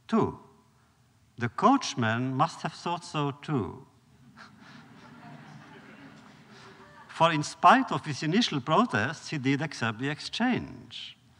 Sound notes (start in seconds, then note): 4.2 laughter